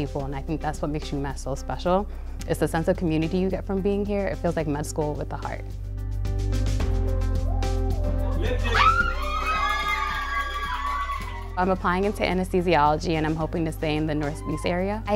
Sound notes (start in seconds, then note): 8.2 cheering